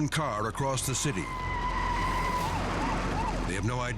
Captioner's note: tires screeching